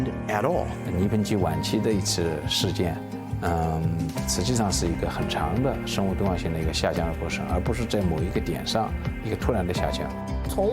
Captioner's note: speaking Chinese